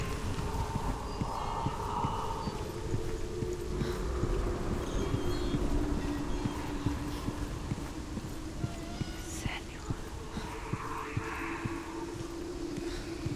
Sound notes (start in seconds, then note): 9.7 whisper